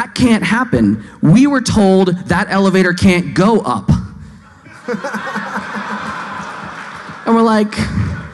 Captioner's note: laughing